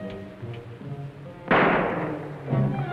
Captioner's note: gunshot